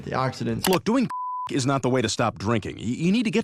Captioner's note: beep